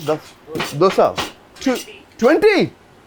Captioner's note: speaks in foreign language